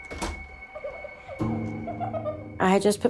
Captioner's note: girl giggling